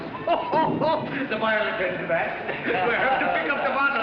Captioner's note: laughs